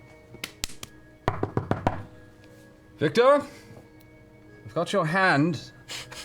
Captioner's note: knocks